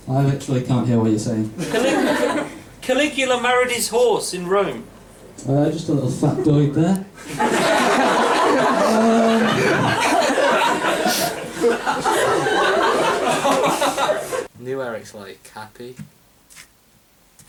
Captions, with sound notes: I literally can't hear what you're saying. [laughter] Caligula married his horse in Rome! Er, just a little factoid there. [audience laughs] New Eric's, like, happy.